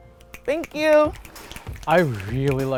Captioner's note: audience snaps